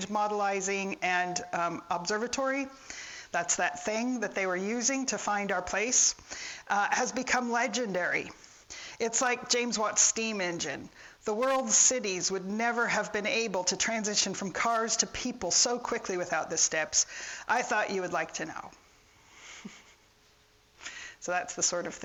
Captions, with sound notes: modelizing, and observatory. That's that thing that they were using to find our place. Has become legendary. It's like James Watt's steam engine. The world's cities would never have been able to transition from cars to people so quickly without the steps. I thought you would like to know. (chuckles) So that's the sort of